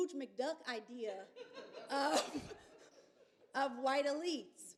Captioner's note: laughter